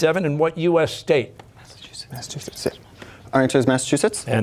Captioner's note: whispering